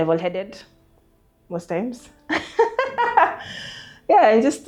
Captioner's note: laughs